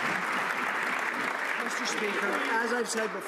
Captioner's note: some Applause